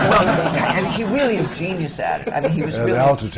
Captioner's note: laughter